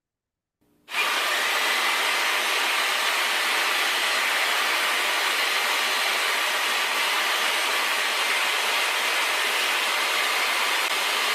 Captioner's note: noise of jigsaw